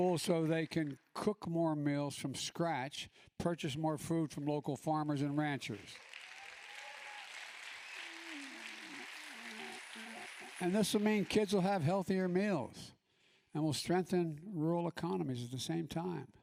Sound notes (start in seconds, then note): 5.0 applause